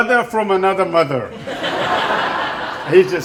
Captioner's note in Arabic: الضيوف يضحكون